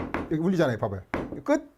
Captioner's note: hammering sound